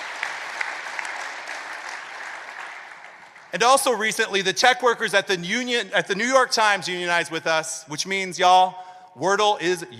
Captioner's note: applause